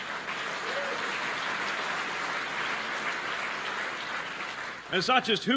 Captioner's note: applause